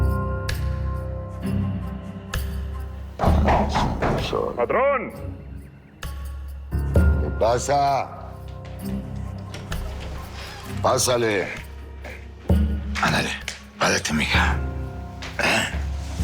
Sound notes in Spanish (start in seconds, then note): 3.2 Toques en la puerta